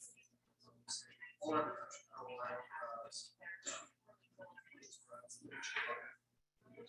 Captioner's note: people chattering indistinctly continues